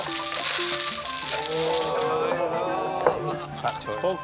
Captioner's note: laughter